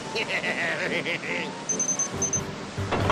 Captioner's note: chuckles evilly; beeping